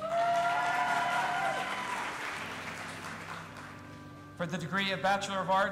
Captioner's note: audience applauding and cheering